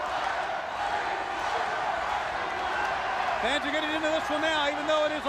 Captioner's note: crowd cheering